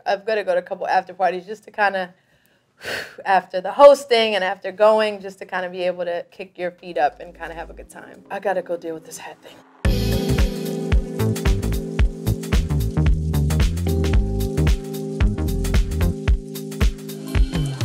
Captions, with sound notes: I've gotta go to a couple after parties, just to kinda [exhales] after the hosting and after going, just to kind of be able to kick your feet up and kind of have a good time. I gotta go deal with this hat thing. [relaxed electronic music]